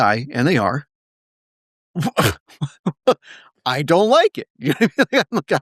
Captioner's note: laugh